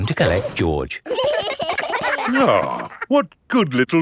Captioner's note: giggling